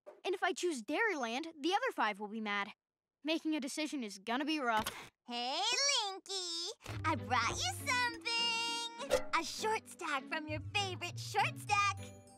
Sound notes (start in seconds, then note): none